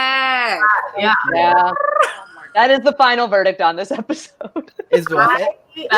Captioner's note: laughs